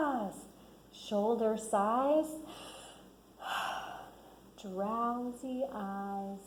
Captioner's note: sighs